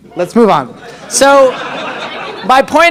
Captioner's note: audience laughs